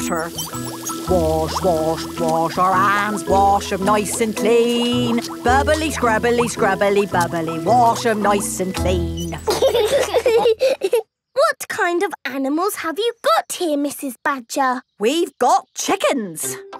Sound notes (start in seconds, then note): 0.3 sings to the tune; 9.2 laughing